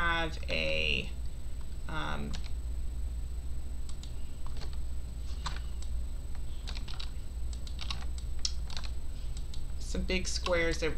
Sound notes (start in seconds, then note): 2.5 keyboard clicking; 7.5 mouse clicking